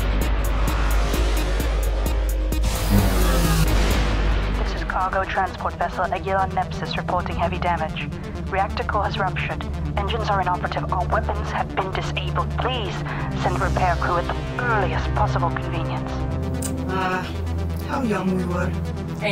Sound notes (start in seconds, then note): 2.6 portal buzzing